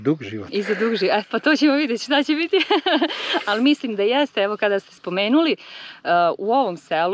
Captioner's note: laugh